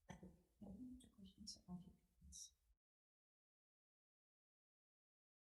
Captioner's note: assistant whispering